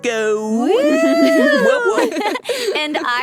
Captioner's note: cheering